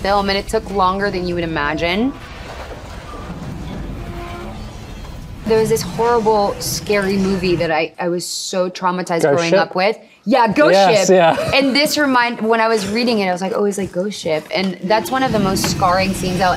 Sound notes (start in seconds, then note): 4.0 ship creaking; 11.0 chuckles